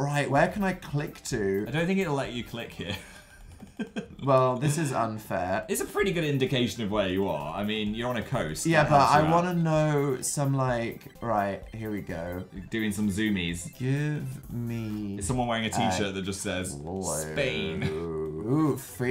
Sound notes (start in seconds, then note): 2.8 giggles